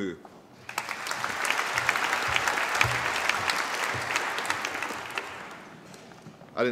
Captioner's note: applause